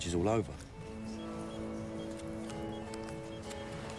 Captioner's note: dialing